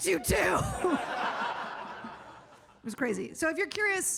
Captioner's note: audience laughs